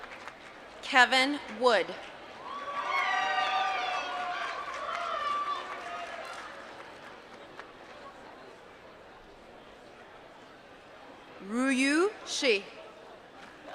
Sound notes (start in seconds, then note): 0.0 applause; 6.9 applause